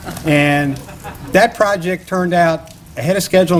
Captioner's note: laughter